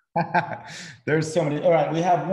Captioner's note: laughing